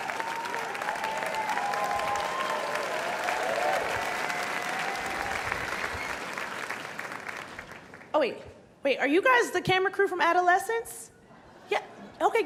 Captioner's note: cheers and applause